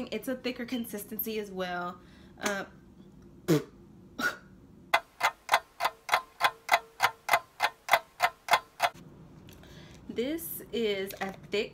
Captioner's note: clock ticking